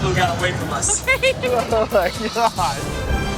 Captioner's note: group laughing